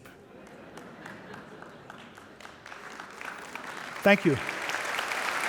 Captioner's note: audience applauding